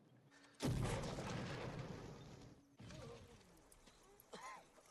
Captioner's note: explosion